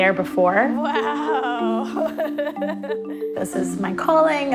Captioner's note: laughing